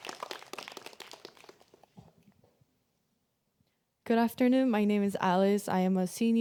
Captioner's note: applause